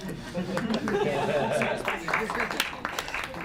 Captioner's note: clapping